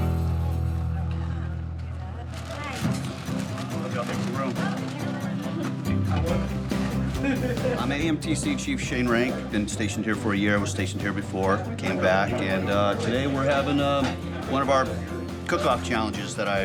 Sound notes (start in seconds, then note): 6.5 people chattering